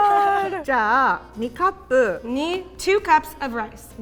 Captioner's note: speaking in Japanese